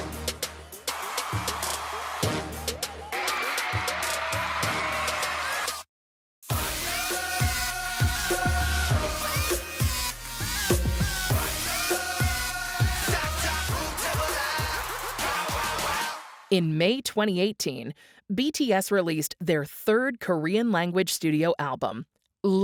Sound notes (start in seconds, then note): 0.0 crowd cheers; 6.5 upbeat music